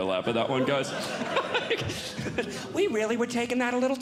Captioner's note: audience Laughing